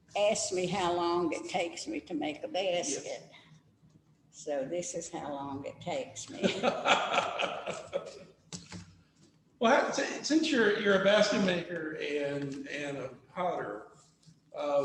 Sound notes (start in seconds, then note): 9.2 laughs